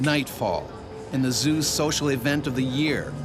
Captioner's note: voiceover